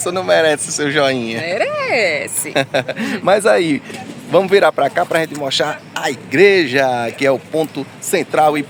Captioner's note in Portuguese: risadas